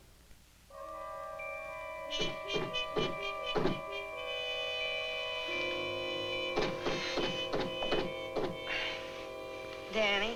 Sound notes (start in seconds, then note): 1.7 knocking on door